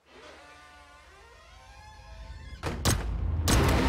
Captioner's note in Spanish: Disparos